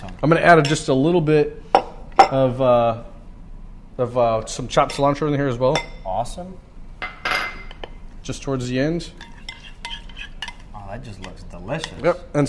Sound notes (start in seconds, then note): 9.1 glass scraping